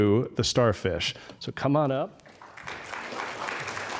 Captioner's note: applause